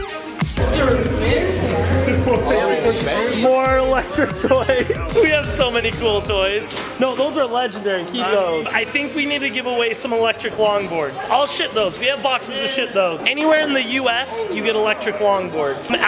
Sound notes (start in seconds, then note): 0.6 people talking